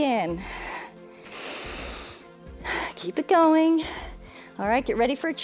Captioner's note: inhales and exhales